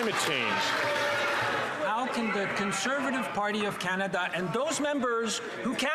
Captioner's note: some Applause